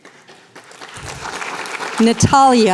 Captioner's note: applause